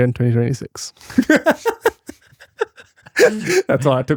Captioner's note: laughing